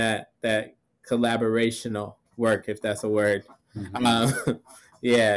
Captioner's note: chuckles